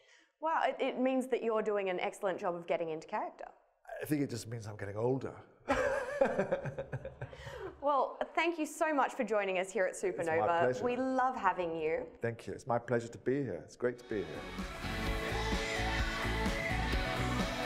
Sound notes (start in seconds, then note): 5.6 both laugh; 14.1 rock music